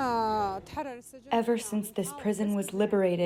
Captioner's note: through translator